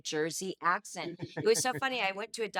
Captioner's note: laughing